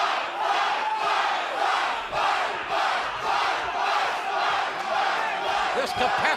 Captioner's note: crowd cheering